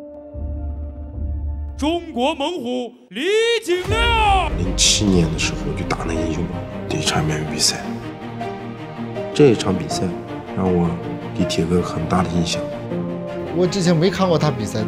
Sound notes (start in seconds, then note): 2.9 ring announcer shouting in foreign language